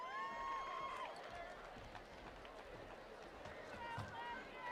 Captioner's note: attendees applauding